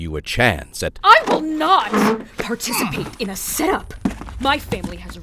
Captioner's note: Peterson grunts